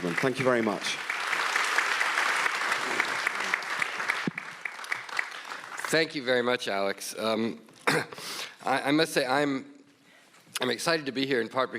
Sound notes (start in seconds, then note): 0.0 audience applauds